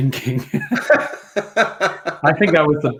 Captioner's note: laughs